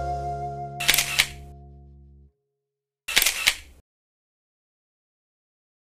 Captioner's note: camera shutter snapping